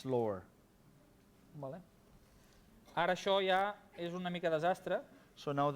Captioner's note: non-english speech